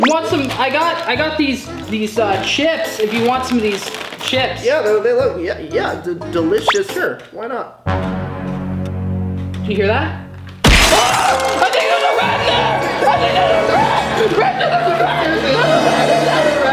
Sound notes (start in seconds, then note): 10.7 yells